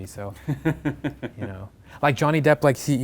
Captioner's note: laugh